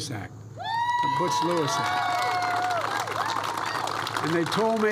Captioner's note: applause